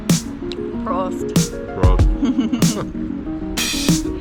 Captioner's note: giggles